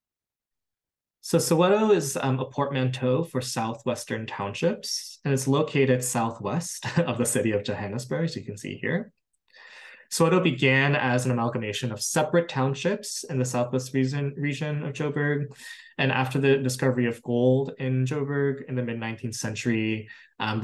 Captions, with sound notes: So Soweto is a portmanteau for southwestern townships and is located southwest [LAUGHTER] of the city of Johannesburg. So you can see here. Soweto began as an amalgamation of separate townships in the Southwest reason region of Joe berg. And after the discovery of gold in Joe berg in the mid 19th century, um,